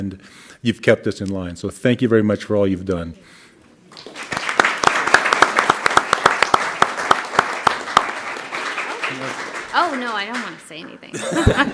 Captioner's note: clapping